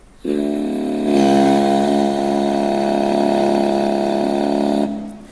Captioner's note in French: Rugissement